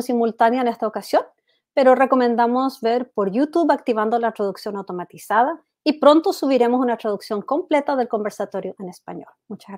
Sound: speaks foreign language

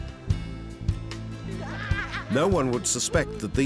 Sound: laughter

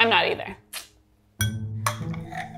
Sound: soft suspenseful music; fork clinking

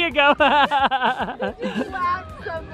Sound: laughs

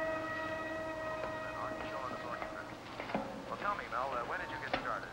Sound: talking on radio

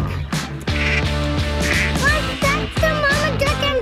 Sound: duck quacks

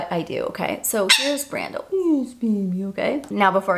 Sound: Brando chirps

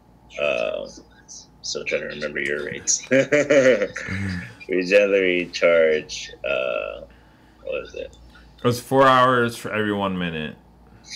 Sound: laughs

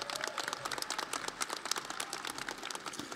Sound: audience applauding

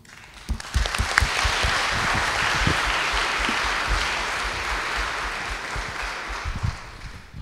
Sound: applause

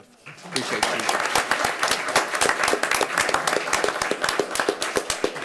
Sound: attendees applauding

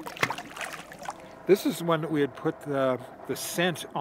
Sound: fish splashing

